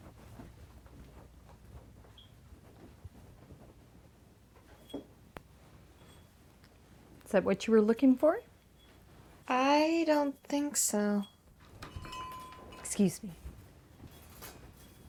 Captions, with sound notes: (footsteps) - Is that what you were looking for? - I don't think so. (door bell clangs) Excuse me.